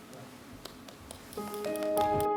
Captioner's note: clapping; piano music